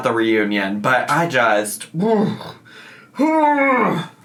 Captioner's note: groans